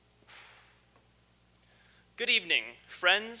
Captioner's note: exhales